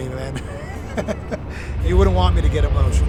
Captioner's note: Sami Zayn laughs